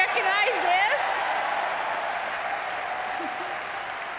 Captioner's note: audience cheering